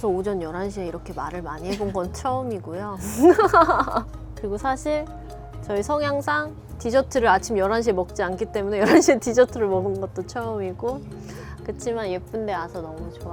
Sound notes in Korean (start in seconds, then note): 3.0 웃음